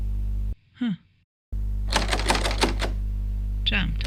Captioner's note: repeated attempts at opening the door